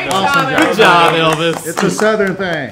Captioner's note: everyone clapping